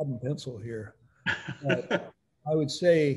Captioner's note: chuckles